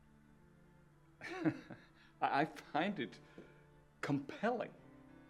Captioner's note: chuckling